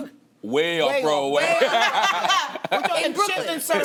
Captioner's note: laughter